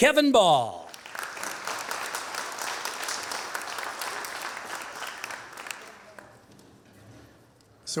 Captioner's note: applause